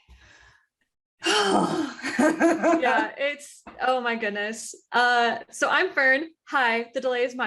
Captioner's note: sigh from both